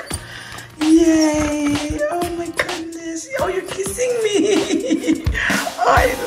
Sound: laughter

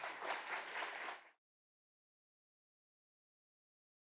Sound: audience applauds

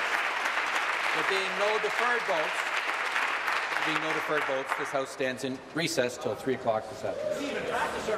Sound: applause

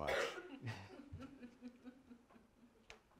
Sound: laughter

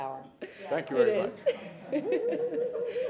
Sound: laughter

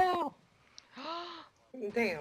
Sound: gasps

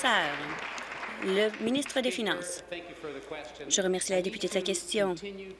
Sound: applause

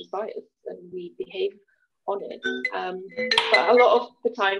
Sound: loud ringing

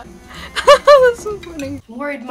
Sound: laughs

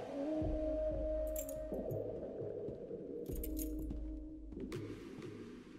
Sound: keys jingling; smooth, R&B music

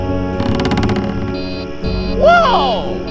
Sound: beeping

